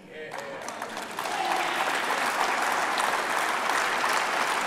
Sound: applause

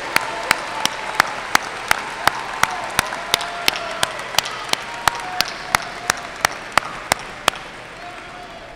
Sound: applause and cheers

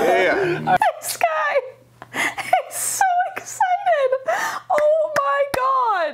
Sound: laughing; clapping

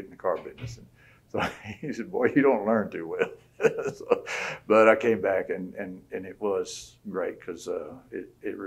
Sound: laughs

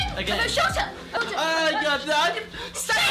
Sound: both speaking gibberish

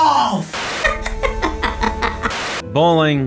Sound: laughing

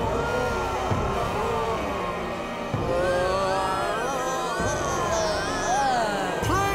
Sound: moaning

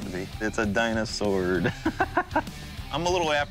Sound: laughing

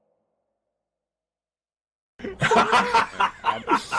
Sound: laughing

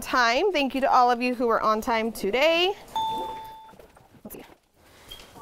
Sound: ding

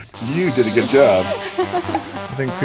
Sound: laughs

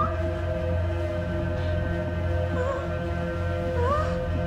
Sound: scared breathing

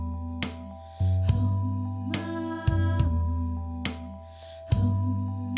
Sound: playback of recorded 'Hmmm, maammmm'

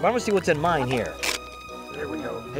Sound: plastic riping

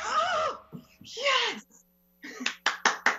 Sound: clapping

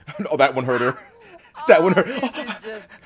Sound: laugh

